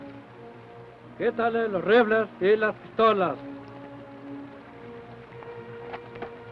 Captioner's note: Chief speaks foreign language